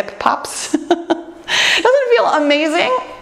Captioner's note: laughs